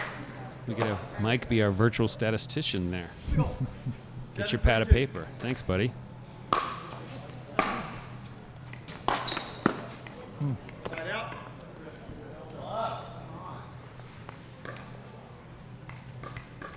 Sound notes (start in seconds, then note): 7.6 ball being smacked